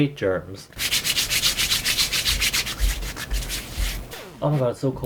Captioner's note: dry ass hand noises